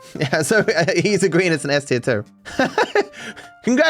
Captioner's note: laughing